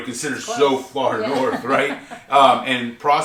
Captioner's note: laughs